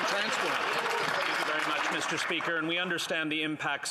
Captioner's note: applause